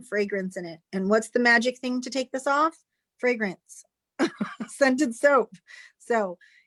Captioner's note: chuckles